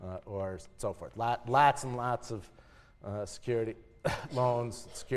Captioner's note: cough